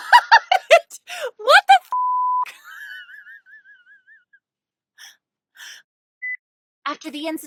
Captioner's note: laughter; wheezing